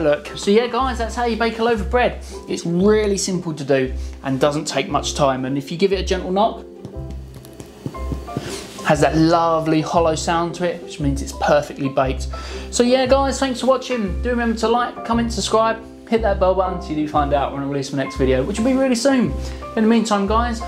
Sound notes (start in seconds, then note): 7.4 knocking